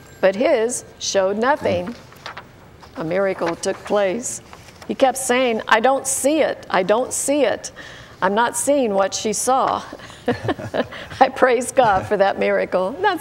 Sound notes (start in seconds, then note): 10.0 laughter